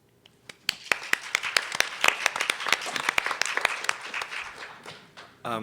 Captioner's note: audience and panelists applauding